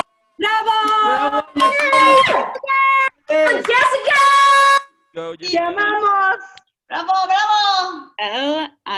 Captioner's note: cheering